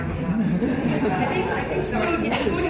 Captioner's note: audience laughing